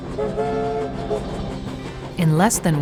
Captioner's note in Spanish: Tren moviéndose sobre las vías